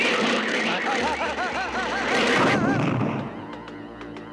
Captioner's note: crash